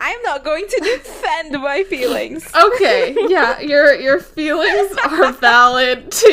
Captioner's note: laughs